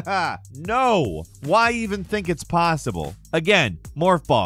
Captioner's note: laughs